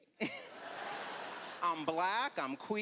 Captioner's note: laughter